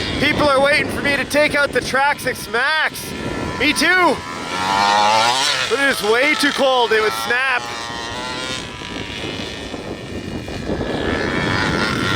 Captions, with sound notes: People are waiting for me to take out the Traxxas Maxx Me too! Look at this way too cold, it would snap. (motor revving)